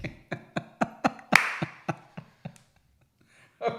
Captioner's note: laughs